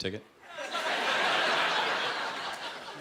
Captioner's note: laughter